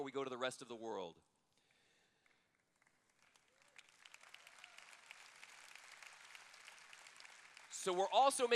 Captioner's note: applause